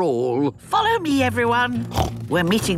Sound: snorts

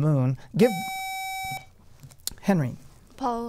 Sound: buzzer

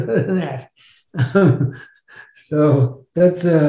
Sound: chuckling

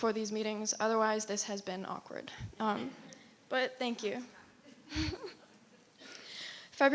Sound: chuckles

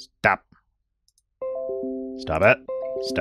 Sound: notification sound

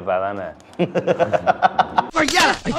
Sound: man laughs

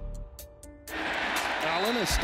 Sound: crowd cheering

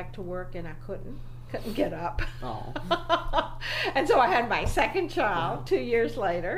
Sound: laughs

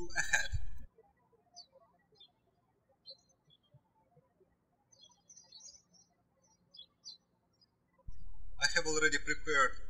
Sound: birds chirping

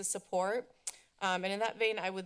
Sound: clicks tongue

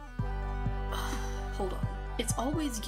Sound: sigh

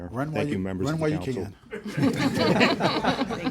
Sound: laughter

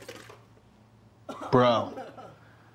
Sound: Devlyn laughing in the other room

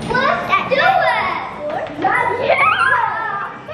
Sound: kids screaming excitedly

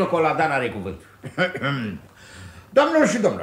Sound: clears his throat

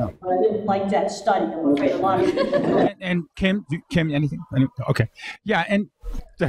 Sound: audience laughs

